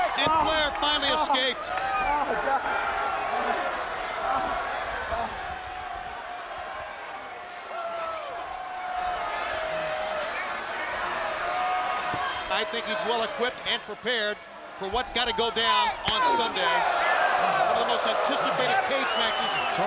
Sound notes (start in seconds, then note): 3.0 crowd noise; 16.6 crowd reacts